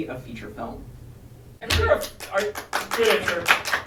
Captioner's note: applause